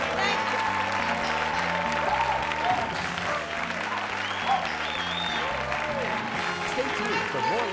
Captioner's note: applause